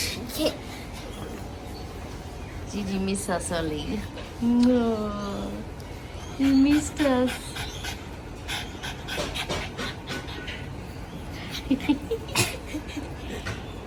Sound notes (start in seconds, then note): 6.3 Ollie pants happily; 11.3 chuckle with joy